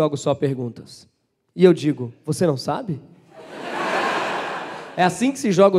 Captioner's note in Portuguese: risos